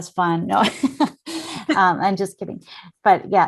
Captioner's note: laughs